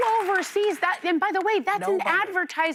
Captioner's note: applause